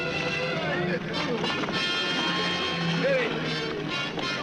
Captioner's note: all shouting